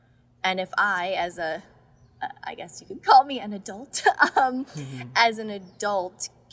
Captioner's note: laughs